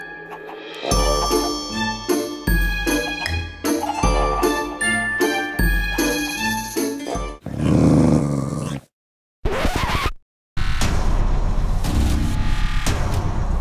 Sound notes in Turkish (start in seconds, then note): 7.4 Hırlama Sesi; 9.1 Bozgunluk Sesi